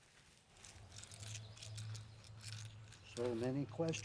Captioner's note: stones rattle